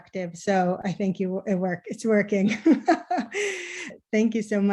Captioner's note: laughter